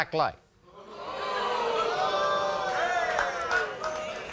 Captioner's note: audience oohs